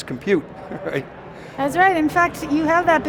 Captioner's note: laughs